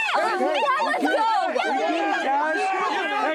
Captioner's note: yelling